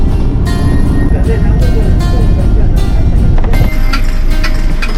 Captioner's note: laughs